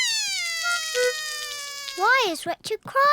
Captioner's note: cries